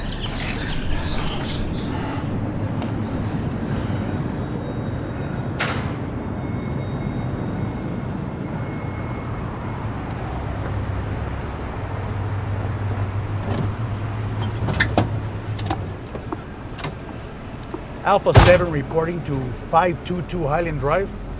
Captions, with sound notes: (labored breathing) (engine humming) (doors rattle) - Alpha seven reporting to 522 Highland Drive.